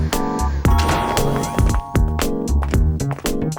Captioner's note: ding